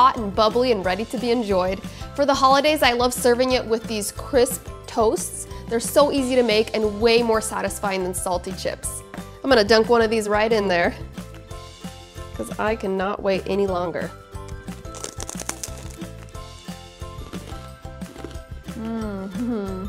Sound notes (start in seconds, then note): 14.4 crunches